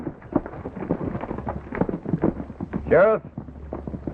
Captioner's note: horses galloping